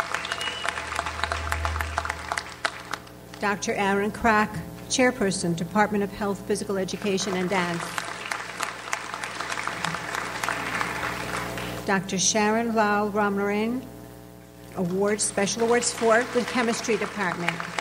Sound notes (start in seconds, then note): 0.0 audience applauds; 7.0 audience applauds